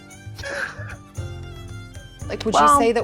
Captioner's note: chuckling